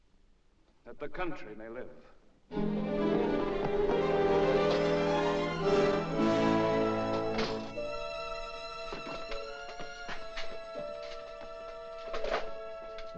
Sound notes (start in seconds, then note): 2.4 suspenseful music; 6.8 door closes; 7.7 ominous music